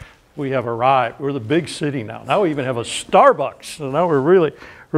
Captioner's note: none